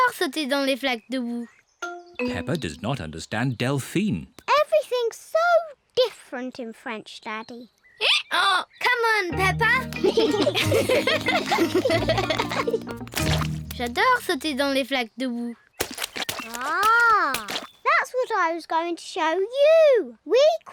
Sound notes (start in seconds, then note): 8.7 brays; 9.9 both giggle